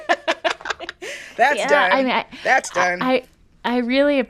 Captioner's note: laughter